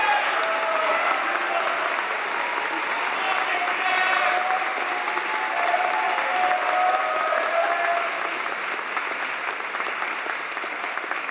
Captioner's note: cheers and applause